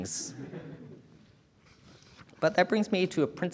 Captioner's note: audience chuckling